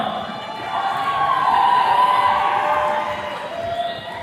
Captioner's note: attendees cheering